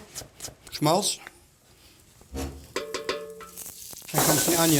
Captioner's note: sizzling